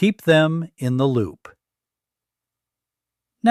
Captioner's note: pause